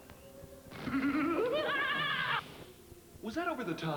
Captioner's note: crazed laughter